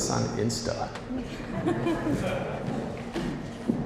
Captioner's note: audience laughing